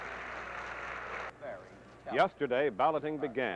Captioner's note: cheers and applause